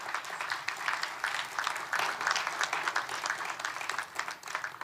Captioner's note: applause